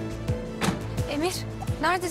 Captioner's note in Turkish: Kapı kapanma sesi